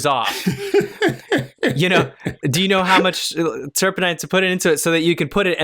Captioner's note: laughter